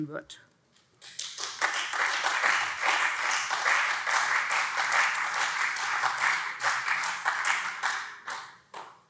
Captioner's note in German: Beifall SPD und vereinzelt CDU